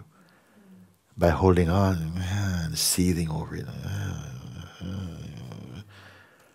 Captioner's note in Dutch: kreunt